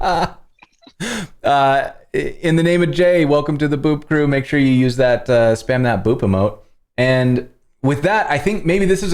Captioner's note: laughter